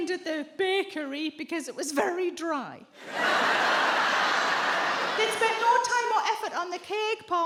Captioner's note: audience laughs